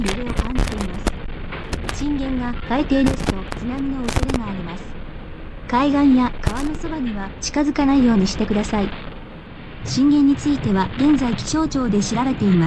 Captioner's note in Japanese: ラジオ